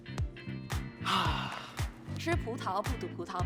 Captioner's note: exhales